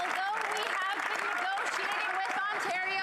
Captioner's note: applause